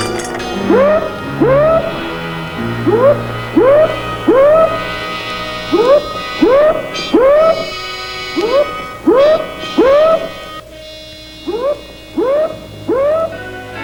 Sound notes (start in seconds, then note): 0.5 alarm sounding